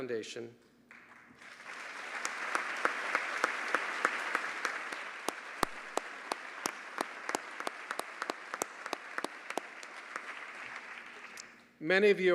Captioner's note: applause